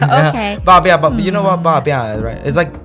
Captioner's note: Taiwanese